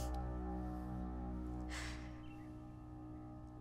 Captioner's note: Fatima sighs